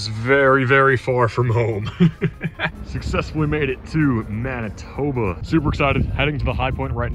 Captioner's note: laughs